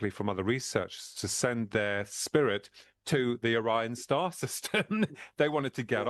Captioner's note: laughs